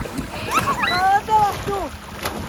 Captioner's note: laugh